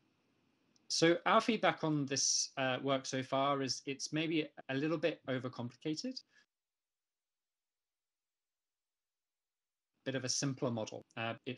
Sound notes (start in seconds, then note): 6.7 audio cuts out